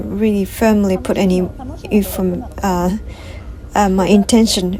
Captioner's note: laugh